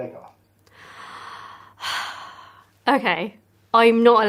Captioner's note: sighs